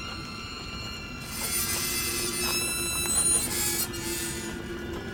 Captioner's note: gate creaks